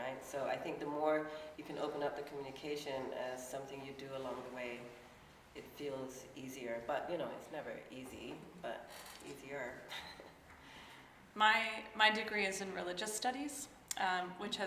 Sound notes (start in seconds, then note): 10.6 laughs